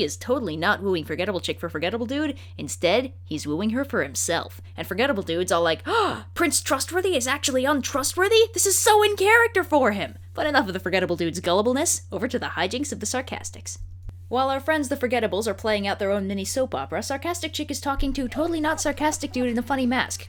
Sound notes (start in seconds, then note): 5.8 gasp